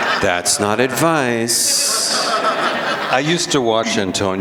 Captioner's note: laughter